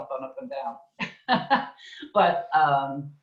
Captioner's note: laughs